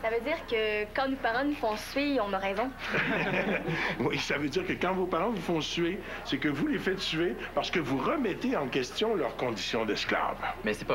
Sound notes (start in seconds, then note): 2.8 Rires